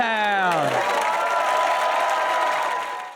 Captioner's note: audience cheer and applaud